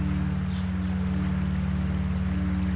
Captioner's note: water splashing